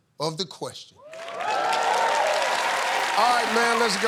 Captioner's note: cheers and applause